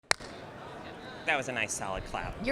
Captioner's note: clap